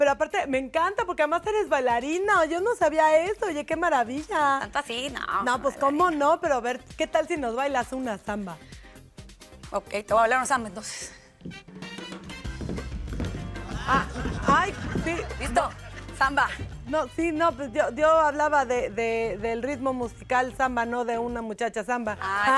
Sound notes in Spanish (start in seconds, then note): 13.7 Risas